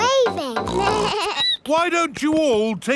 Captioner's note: snorts; bleats